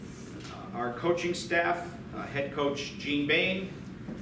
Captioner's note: none